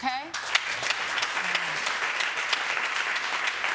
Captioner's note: audience applauding